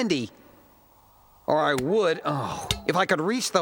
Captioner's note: sighs